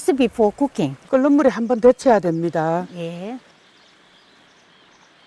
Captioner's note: speaking foreign language